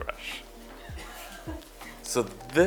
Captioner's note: crew laughter